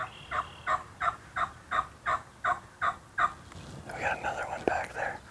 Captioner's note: bird squawking